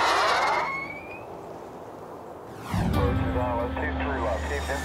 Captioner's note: shot whistling